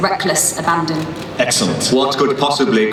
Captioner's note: voiceover